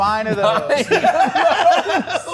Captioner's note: laughs